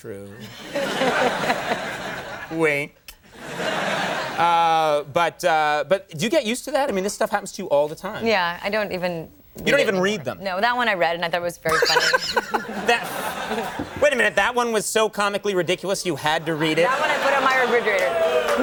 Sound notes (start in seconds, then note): 0.5 audience laughing; 11.7 everyone laughing